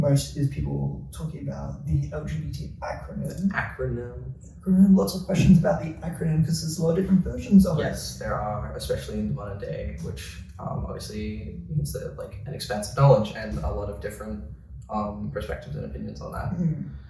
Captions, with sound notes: is people talking about the LGBT acronym. Acronym. [sing-song voice]: “Acronym” . Lots of questions about the acronym because there’s a lot of different versions of it. Yes. There are, especially in the modern day, which obviously makes it an expansive knowledge. And there’s a lot of different perspectives and opinions on that.